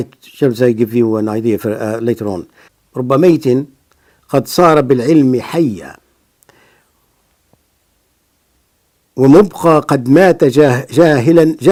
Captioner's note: reading in Arabic